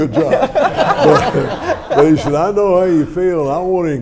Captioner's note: audience laughs